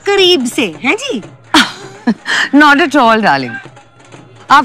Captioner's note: Sheena laughs